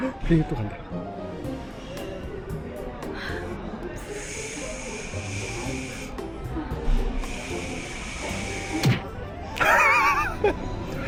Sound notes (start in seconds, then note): 4.4 plane taking off